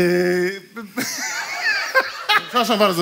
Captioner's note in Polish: śmiech